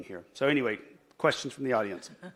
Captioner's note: laughs